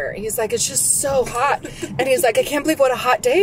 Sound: laughs

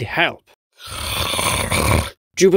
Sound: snarling

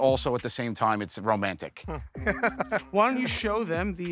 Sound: chuckles

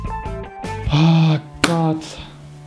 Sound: groan

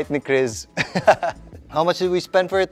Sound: laughs

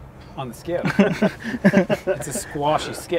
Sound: laughter

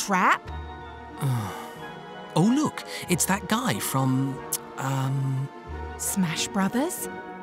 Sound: sighs

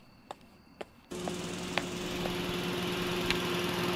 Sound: portal Generator Sound

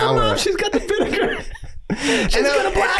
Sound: laughing

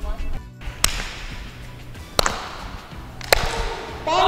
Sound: claps

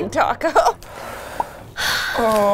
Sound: sighing

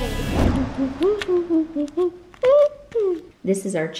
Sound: hums

